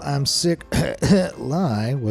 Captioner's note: coughs